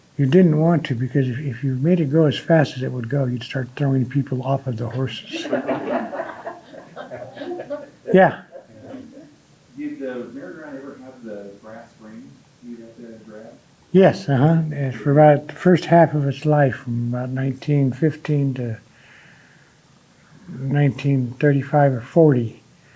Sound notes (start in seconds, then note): 4.9 audience laughing